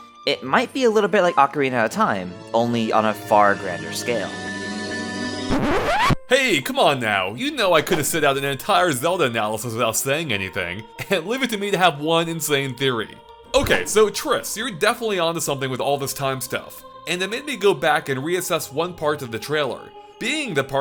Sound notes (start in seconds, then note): 5.4 record scratch